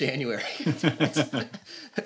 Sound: laughter

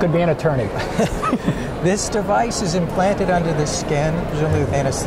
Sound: laughs

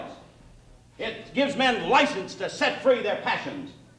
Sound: none

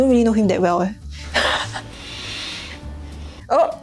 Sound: sigh

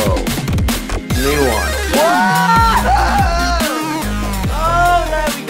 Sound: loud electronic music; screaming

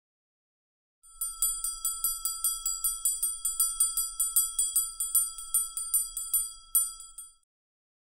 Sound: sound of hand-operated bell

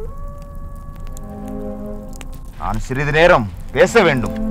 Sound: fox howling

